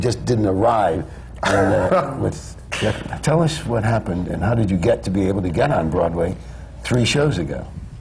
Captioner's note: laughs